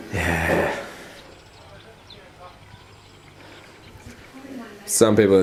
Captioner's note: birds chirping